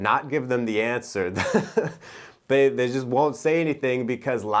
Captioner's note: giggles